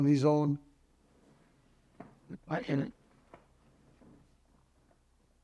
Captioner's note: pauses 12 seconds